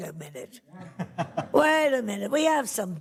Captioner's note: laughs